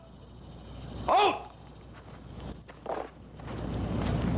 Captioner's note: man Shouts Command